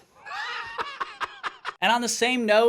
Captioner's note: laughs